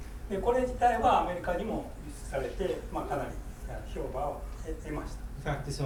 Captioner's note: speaking in foreign language